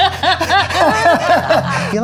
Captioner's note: laughing